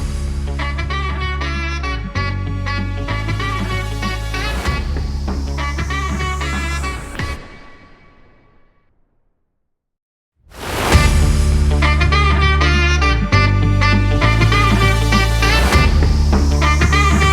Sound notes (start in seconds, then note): 9.9 car honks